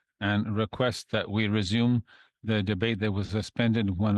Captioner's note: speaking in French